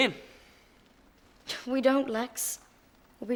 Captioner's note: scoffs